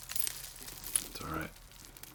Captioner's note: rocks clattering